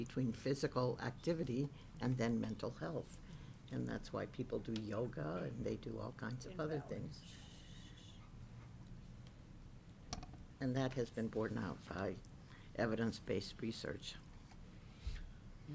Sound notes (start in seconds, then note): 10.1 shushes